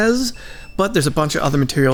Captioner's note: beep Beep